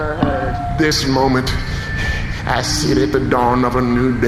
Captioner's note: breathing heavily